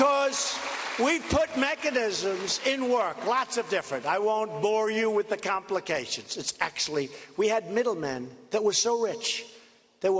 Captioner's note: applause